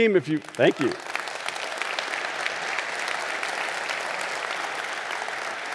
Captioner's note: audience applauding